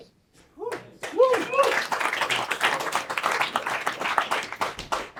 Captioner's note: attendees cheering and clapping